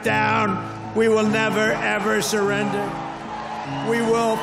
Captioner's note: audience cheering